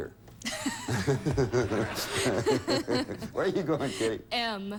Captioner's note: audience laughing